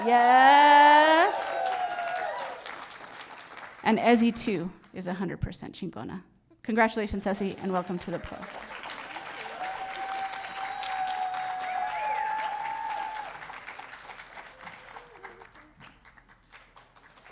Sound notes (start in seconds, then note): 0.0 audience cheering; 5.0 speaks in foreign language; 8.1 audience cheering